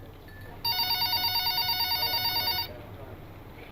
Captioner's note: phone rings